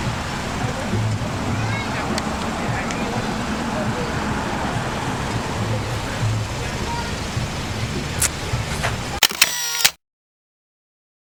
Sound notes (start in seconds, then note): 1.5 kid Yelling & People Talking